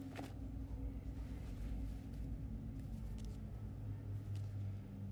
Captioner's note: none